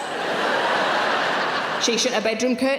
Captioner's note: audience laughing